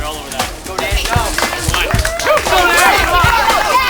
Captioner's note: cheering